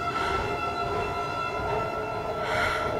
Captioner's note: breathing heavy